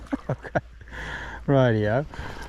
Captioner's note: laughter